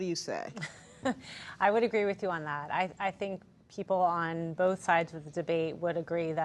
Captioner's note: laughs